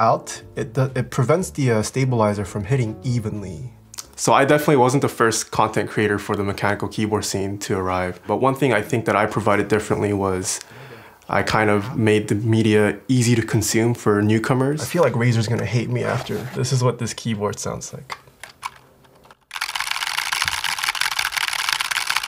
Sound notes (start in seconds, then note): 18.1 quick tapping noise